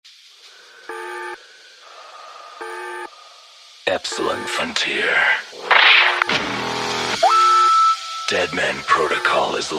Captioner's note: Static